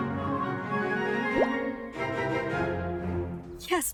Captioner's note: text bubble pops